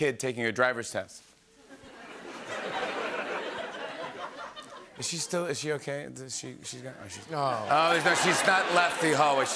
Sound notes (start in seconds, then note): 1.6 laughter; 6.7 laughter